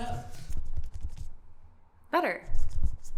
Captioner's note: finger thumping